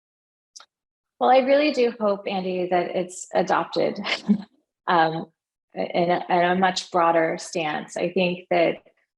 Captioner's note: laugh